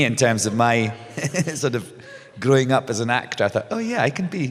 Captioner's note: laughs